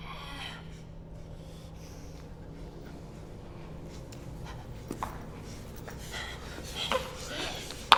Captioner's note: panting, groaning